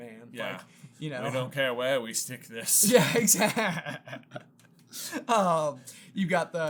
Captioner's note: laughs